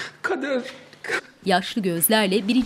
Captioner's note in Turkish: Ağlama sesi